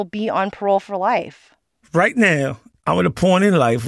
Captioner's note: soundbite of archived recording